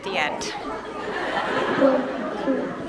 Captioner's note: classroom talking and laughing